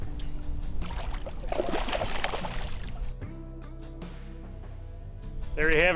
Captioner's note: mellow music; water splashes